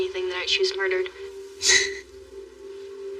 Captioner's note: chuckles